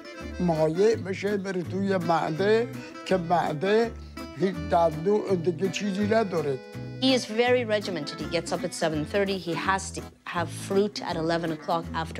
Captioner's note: speaking foreign language